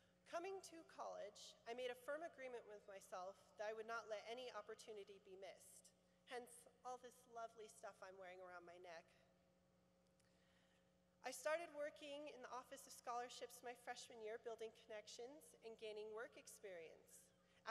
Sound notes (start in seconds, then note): none